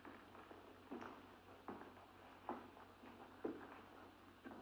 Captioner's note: Andre's footsteps